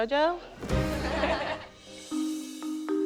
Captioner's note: laughter